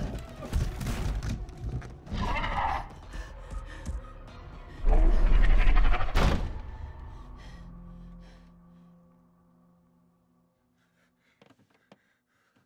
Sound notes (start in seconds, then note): 0.1 dinosaur growls; 5.6 door slams